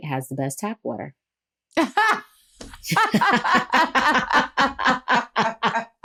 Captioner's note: laughter